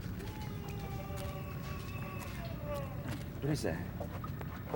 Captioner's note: wailing